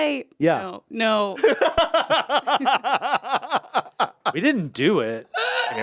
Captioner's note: Anthony laughs